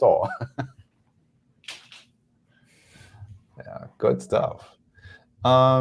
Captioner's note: chuckles